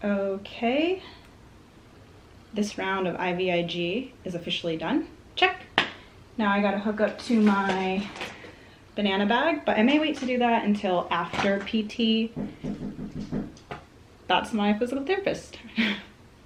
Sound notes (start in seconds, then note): 12.3 knocking